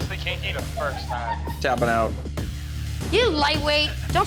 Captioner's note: woman laughing